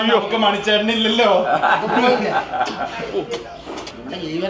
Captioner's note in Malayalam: പൊട്ടിച്ചിരി